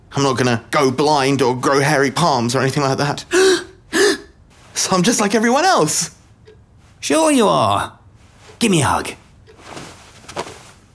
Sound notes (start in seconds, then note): 3.3 lampshade gasping